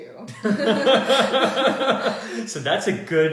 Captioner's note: laughter